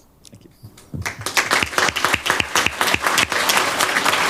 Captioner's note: applause